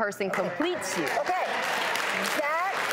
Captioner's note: audience claps